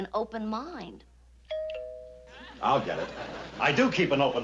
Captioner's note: doorbell rings